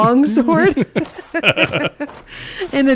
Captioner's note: laughs